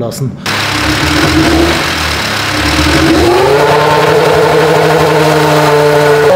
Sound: engine sounds

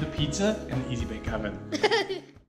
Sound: laughter

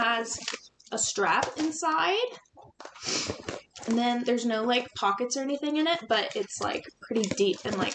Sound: sniffles

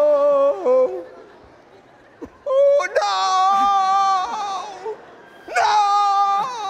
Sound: audience laughing

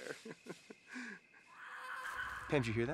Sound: kid screaming

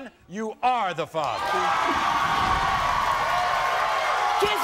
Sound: cheering

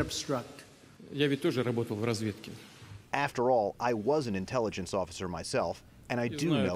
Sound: through translator

